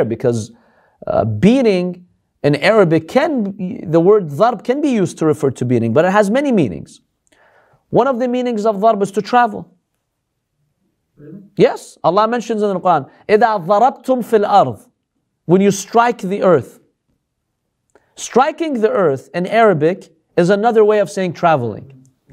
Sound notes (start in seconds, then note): 14.5 Arabic